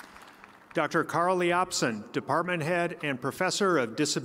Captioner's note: applause